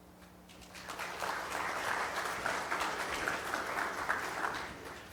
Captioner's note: audience applauding